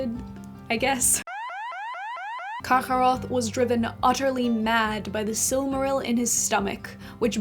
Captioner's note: alarm Sound